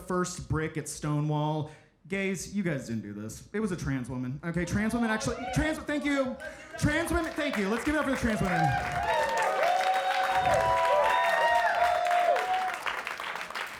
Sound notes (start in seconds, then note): 5.4 audience cheering; 10.3 audience cheering